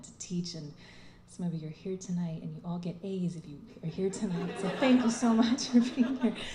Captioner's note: laughter